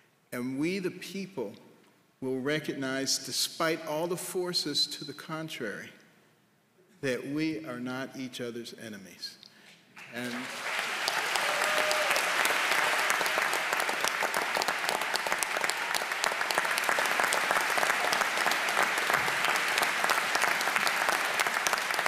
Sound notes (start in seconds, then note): 9.8 applause